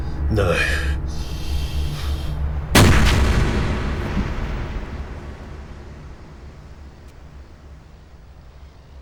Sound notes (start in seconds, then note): 2.7 gunshot